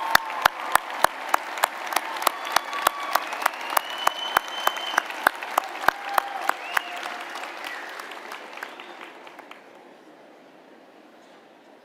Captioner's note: applause